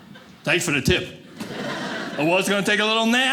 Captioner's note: audience laughing